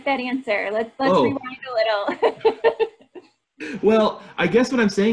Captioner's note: laughter